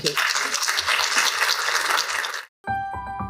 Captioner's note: applause